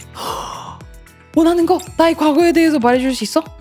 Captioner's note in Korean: 헉 소리